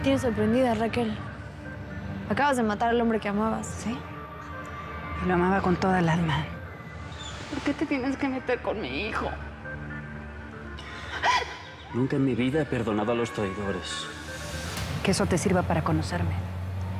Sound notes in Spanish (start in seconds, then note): 10.8 solloza